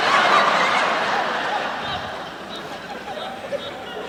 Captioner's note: laughter